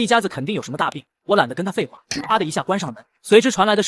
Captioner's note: slap!